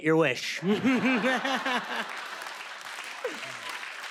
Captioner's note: laughter